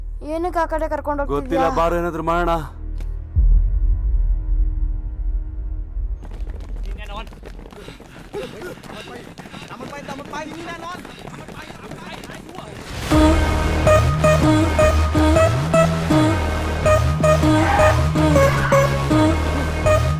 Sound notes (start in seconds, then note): 6.2 Malay Language; 8.3 footsteps sound